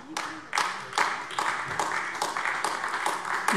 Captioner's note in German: Beifall AfD